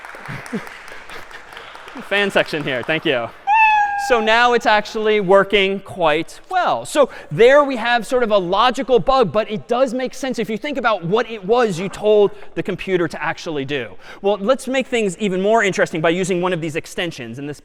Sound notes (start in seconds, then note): 0.2 خنده; 3.4 میو زدن